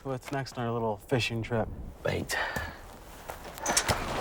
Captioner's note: none